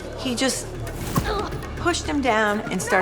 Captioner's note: boy thumps